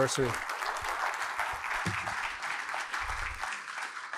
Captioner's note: applause